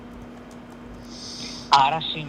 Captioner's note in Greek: χαχανίζει